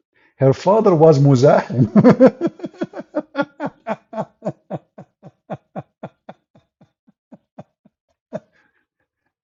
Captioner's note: Ketawa